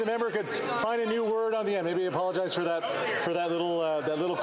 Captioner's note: yelling